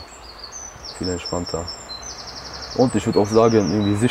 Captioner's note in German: Idyllisches Vogelzwitschern